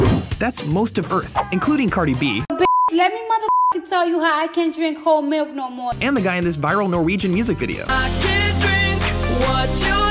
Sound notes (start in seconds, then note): 3.4 beep